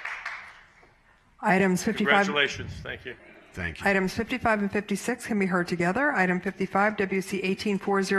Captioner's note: applause